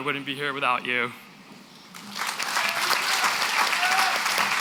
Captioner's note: applause